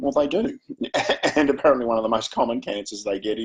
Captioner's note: chuckles